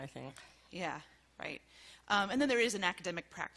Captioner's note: voiceover